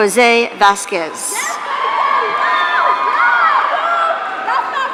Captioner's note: audience cheering